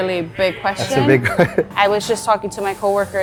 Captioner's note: chuckles